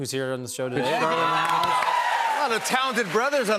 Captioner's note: cheers and applause